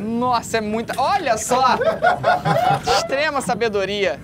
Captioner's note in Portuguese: risadas